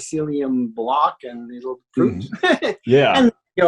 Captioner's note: laughs